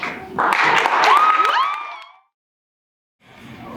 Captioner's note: audience cheers